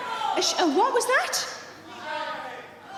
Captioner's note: audience shouting